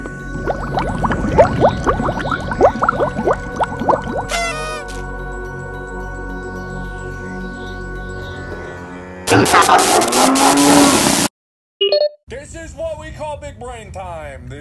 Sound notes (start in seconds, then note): 0.0 bubbles and underwater foley; 4.2 party horn; 8.4 moooo; 9.3 woof woof woof woof woof!; 9.4 static noises; 10.3 grrrrrooooowl; 10.3 moooo